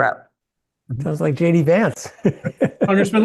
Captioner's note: laugh